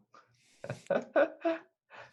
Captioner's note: laughs